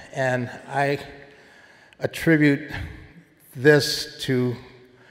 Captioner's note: none